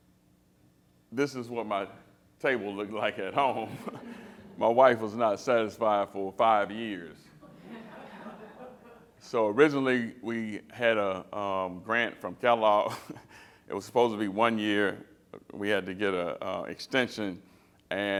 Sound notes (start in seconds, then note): 3.8 laughter